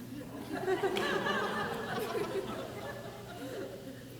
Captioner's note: crowd laughs